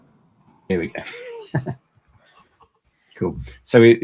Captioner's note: laughs